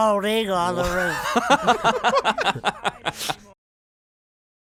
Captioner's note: laughs